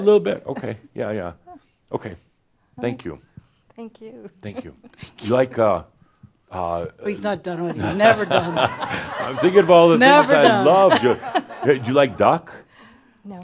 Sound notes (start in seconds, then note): 10.8 laughter